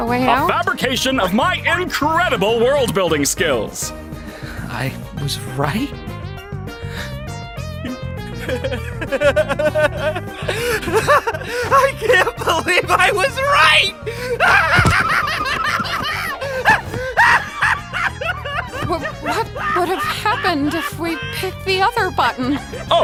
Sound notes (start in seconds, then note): 7.7 laughing manically; 14.4 laughing hysterically